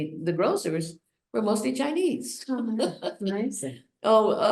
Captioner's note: laughs